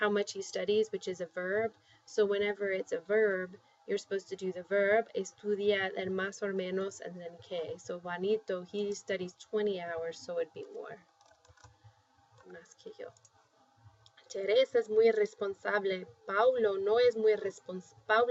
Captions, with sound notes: And we're talking about how much he studies, which is a verb. So whenever it's a verb, you're supposed to do the verb-- [spanish]-- then [spanish] or [spanish], and then [spanish]. So Juanito, he studies 20 hours. So it would be more-- [spanish]. [speaking spanish]